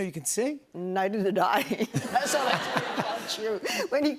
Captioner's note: laughter